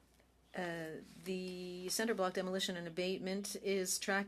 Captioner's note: speaking French